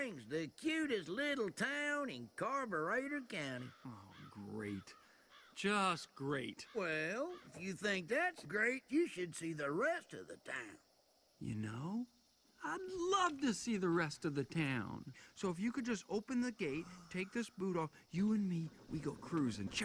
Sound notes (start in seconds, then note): 3.4 bird squawking